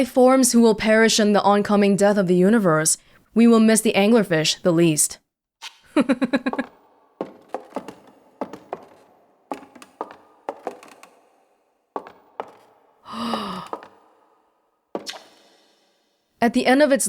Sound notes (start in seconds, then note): 5.9 laughs; 13.1 gasp